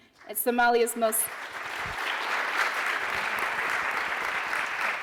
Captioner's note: applauding